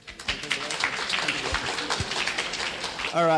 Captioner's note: clapping